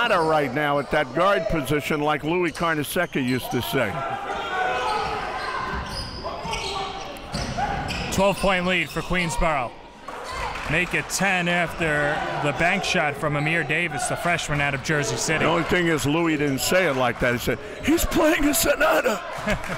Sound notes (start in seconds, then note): 5.4 crowd cheering; 19.2 laughs